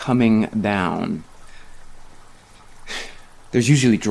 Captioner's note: rain pattering